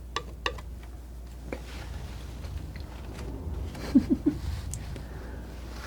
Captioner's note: laughing